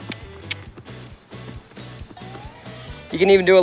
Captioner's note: clicking